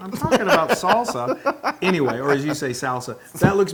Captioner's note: laugh